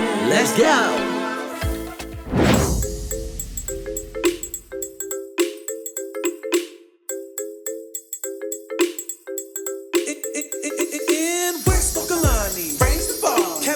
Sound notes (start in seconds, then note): 7.1 hip-hop music; 10.1 record scratches